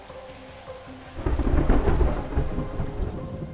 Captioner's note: thunder rumbles